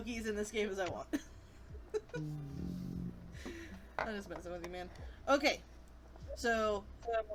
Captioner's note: groans